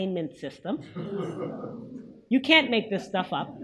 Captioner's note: audience chuckles